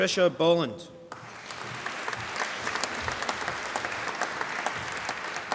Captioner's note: applause